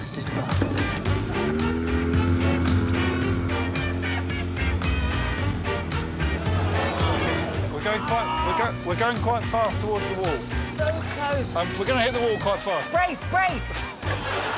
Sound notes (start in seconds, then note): 2.6 motor revving; 6.7 audience groaning